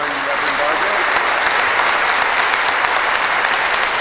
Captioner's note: applause